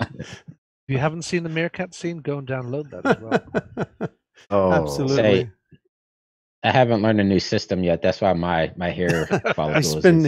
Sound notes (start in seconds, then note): 2.9 laughs